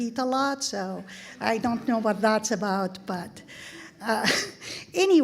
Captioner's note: laughing